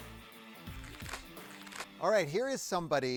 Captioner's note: paper fluttering